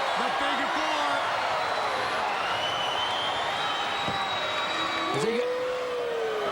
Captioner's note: crowd cheering